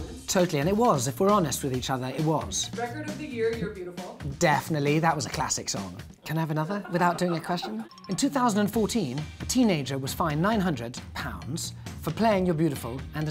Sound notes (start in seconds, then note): 7.8 ringing